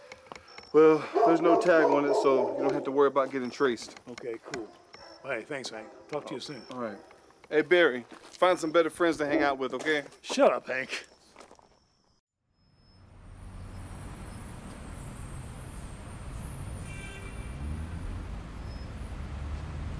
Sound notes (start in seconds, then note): 12.7 street din